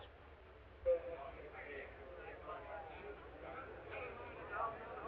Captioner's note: people chattering